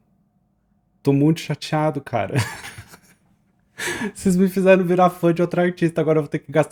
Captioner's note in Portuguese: risadas